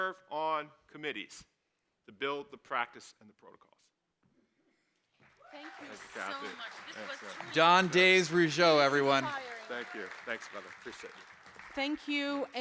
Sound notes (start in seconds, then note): 5.2 clapping and cheering